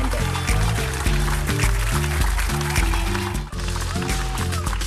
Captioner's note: applause